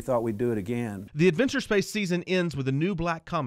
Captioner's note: voiceover